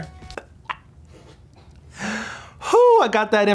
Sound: gags

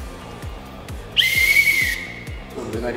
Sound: whistle

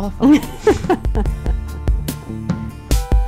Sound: laughing; upbeat instrumental music

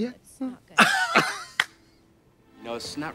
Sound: blonde women giggle

